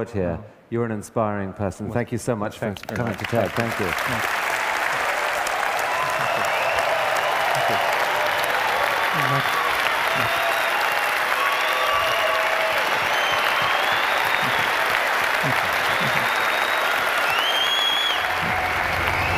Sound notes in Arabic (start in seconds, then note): 4.2 تصفيق